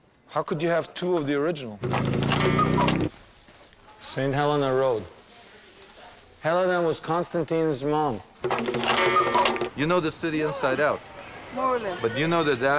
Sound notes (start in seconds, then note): 1.9 engine roaring; 8.5 bell dinging